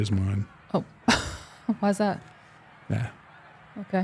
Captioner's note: chuckling